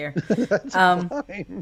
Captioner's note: laughing